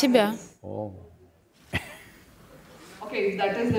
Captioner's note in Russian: Смех